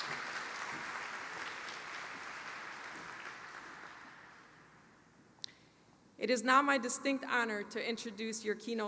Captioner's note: applause